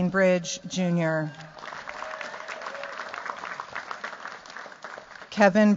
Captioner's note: cheers, applause